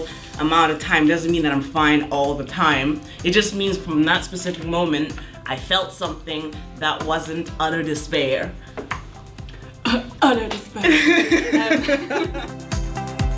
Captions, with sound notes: amount of time, doesn't mean that I'm fine all the time! It just means for that specific moment, I felt something other that wasn't utter despair! *laughs* "Utter despair!!" *laughing*